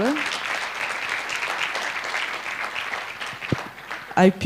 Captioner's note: applause